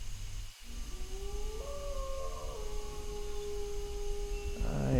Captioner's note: wolf howling